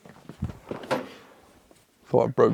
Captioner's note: chair clattering